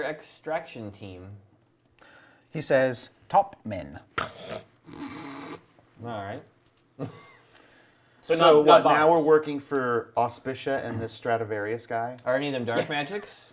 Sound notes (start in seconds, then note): 4.3 sarcastic laugh